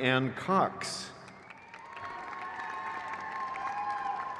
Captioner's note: crowd cheers